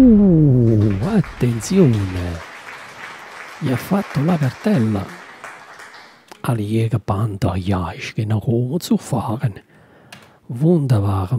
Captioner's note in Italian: Applauso